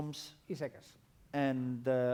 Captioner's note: non-english speech